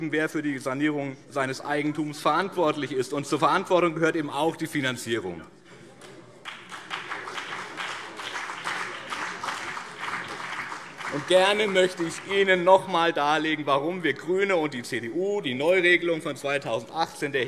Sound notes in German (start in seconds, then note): 6.4 Beifall BÜNDNIS 90/DIE GRÜNEN und vereinzelt CDU